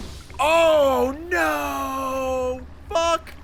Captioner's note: none